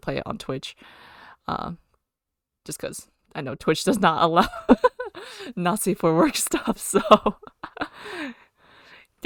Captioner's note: laughs